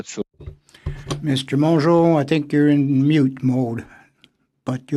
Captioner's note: speaking FRENCH